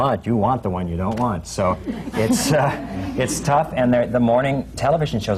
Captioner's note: laughter